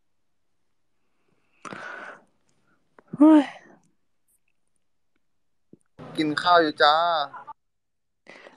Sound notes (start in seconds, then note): 1.6 sigh